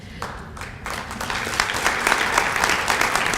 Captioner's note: applause